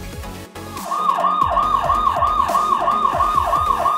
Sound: sirens echo

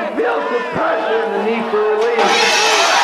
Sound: glass shatters

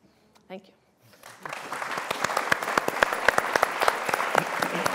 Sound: applause

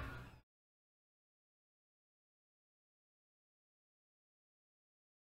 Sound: silence

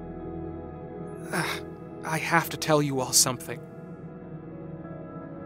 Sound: wince

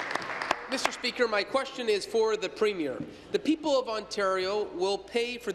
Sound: applause

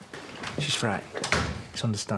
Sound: door closes

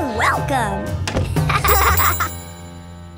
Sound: laughing

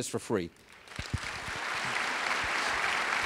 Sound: applause

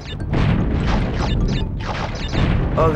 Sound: boulder rumbling, crashing

